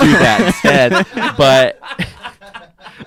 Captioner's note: laughing